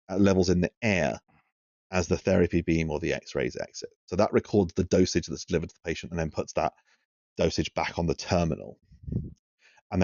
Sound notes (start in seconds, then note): none